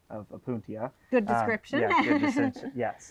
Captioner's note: laughs